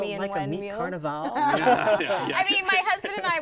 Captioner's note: laughter